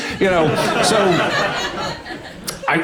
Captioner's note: audience laughing